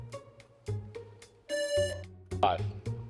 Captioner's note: lively music; buzzer buzzing